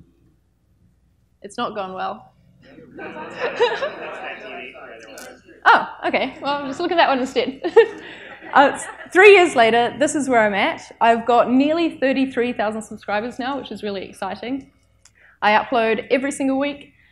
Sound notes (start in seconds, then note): 2.7 everyone laughs; 8.1 laughs